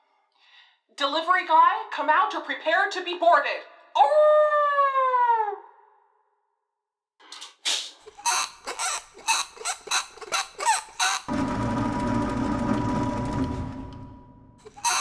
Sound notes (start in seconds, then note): 7.6 airlock opens; 9.6 squeaking wheel; 11.1 ramp lowers